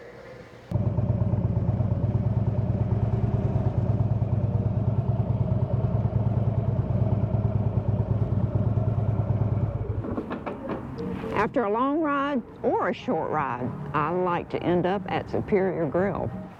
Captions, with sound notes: (motorcycle engine noise) After a long ride or a short ride, I like to end up at Superior Grill.